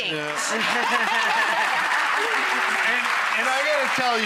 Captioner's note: audience applause